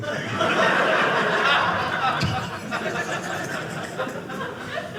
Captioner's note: audience laughing